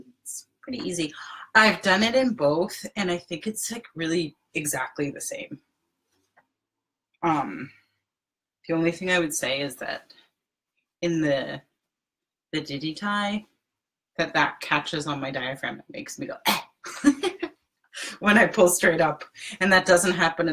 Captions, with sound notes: It's pretty easy, I've done it in both, and I think it's like really exactly the same. The only thing I would say is that in the DidyTai, the back catches on my diaphragm and makes me go (imitates cough) when I pull straight up, and that doesn't happen